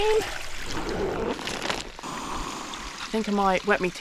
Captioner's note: lunchtime sounds